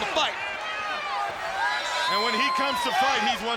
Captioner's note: applause